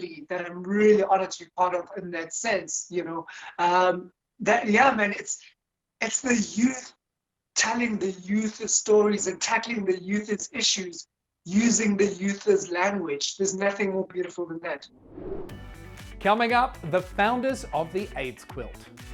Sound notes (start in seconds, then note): 15.0 wind sound effect; 15.5 upbeat music